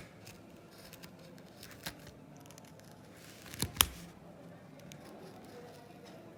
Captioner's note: distant chattering; wood chipping